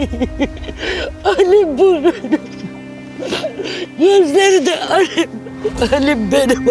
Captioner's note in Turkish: kahkaha; kahkaha